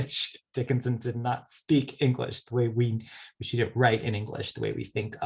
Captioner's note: laughs